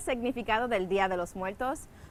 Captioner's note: speaking Spanish